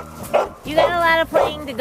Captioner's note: dog barking